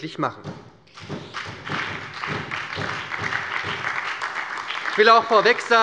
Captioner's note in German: Beifall bei der SPD, der LINKEN und der FDP